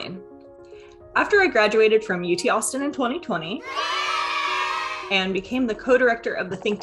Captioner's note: yay! Sound effect